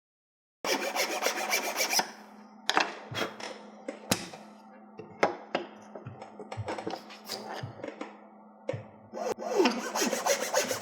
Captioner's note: sawing and clamping sounds